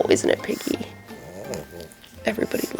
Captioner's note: Piggy grunting